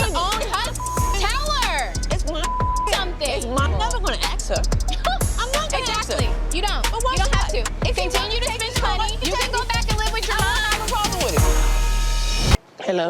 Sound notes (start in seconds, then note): 0.0 beeping; 4.9 scoffs